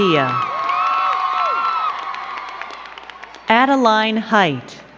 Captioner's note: crowd cheering and clapping